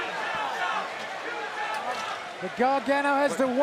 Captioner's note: fans chanting